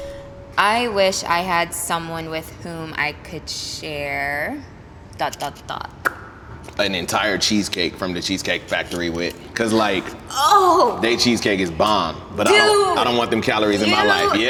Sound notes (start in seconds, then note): 6.6 smacking lips